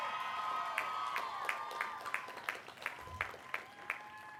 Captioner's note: applause